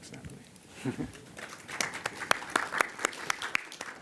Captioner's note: applause